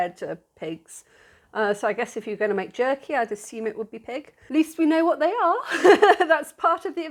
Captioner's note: laughing